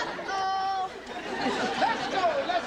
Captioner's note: audience laughing